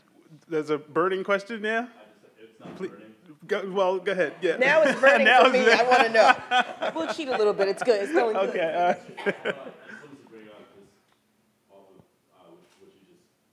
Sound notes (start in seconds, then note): 4.6 laughing loudly; 4.7 everyone laughs